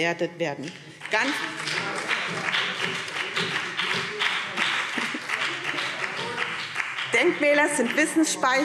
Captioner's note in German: Beifall BÜNDNIS 90/DIE GRÜNEN - Zuruf Freie Demokraten